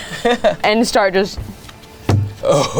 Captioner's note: laughs; wood thumping; laughing in deep voice